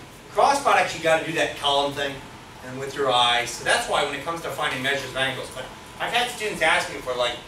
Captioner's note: none